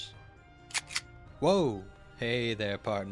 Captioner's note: gun slide racks